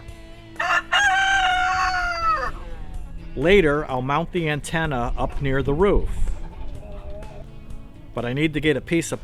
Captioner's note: rooster crowing